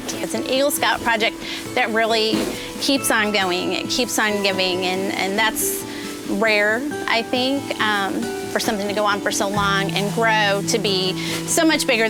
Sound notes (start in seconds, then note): none